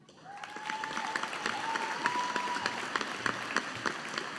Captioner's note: audience applauding